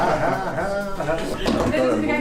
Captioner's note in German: Lachen